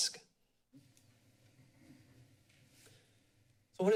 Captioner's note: silence